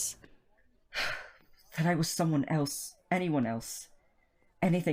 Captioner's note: Remus sighs